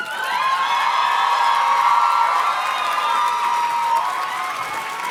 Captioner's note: audience cheers and claps